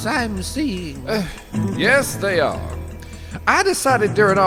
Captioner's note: sigh